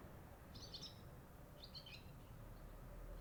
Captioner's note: birds singing